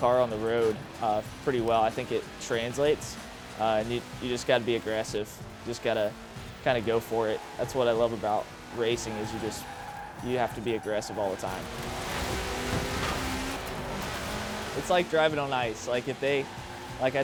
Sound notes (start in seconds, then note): 12.8 car driving